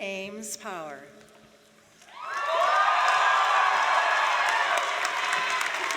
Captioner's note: cheers, applause